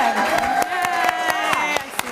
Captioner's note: applause